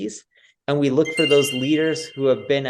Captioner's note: bell chimes